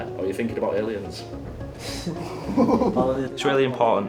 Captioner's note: laughing